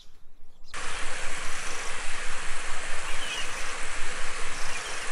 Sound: waterfall

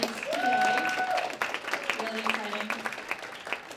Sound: applause

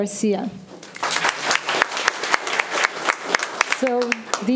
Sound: room applauds

